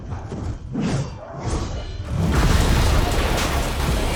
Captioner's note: heavy impact